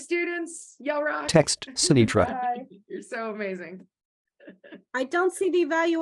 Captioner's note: chuckles